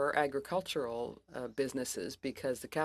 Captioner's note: speaking french